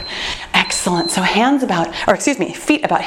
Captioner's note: timer beeps